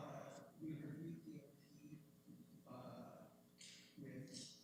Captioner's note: speaking off mic